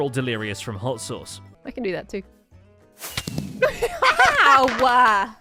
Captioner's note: fireworks explode; laughs